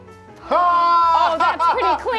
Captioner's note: laughs